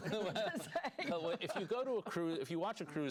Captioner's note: laughter